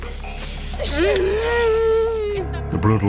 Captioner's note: woman sobbing